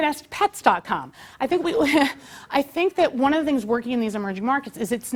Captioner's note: laugh